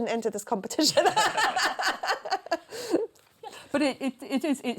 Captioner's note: laughter